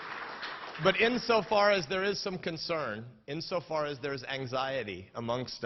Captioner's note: applause